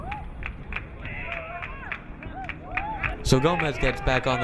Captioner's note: crowd clapping